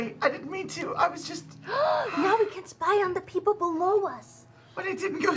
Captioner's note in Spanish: respingo